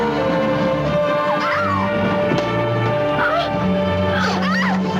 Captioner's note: Irina screaming